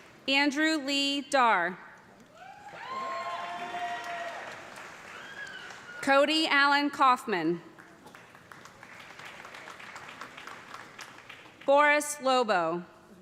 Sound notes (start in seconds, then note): 2.3 cheers and applause; 7.7 applause